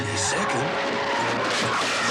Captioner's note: screech; crash